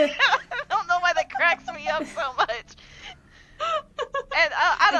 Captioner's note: laughter